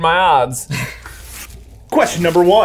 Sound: laughs

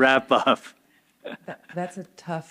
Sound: chuckles

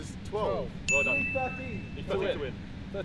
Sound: ding

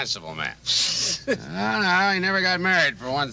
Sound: Homer snickering

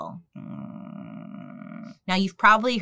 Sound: humming mockingly

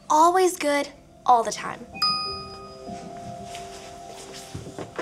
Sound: phone dinging

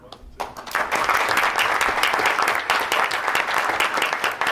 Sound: board applauds

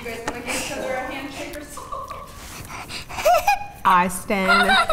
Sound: laughs

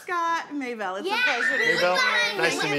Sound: boys screaming

